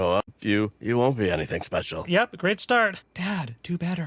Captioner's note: quietly